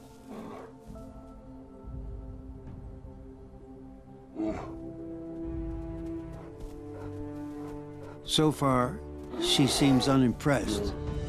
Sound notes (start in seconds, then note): 0.2 bear grunts; 4.3 bear growls; 5.3 uplifting orchestral music